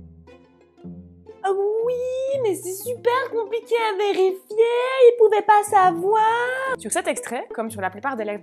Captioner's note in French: sarcastique